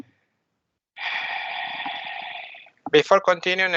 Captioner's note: sigh